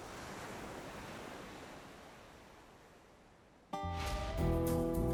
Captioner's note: sound of waves rolling